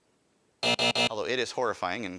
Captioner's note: alarm buzzes